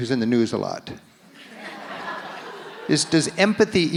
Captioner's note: audience laughs